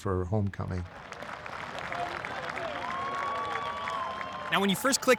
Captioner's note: crowd clapping and cheering